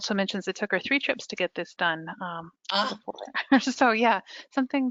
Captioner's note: marvels; laughs